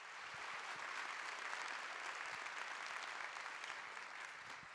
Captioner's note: audience applauding